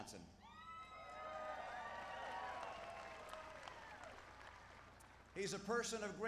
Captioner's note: applause